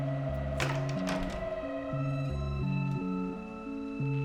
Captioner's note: door clicks